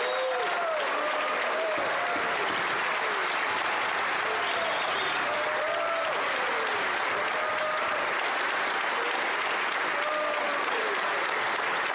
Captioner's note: applause